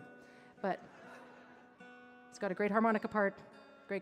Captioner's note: audience laughing